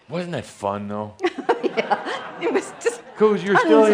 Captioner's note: giggling